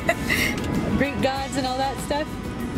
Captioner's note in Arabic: يضحك